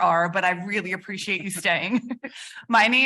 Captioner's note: chuckles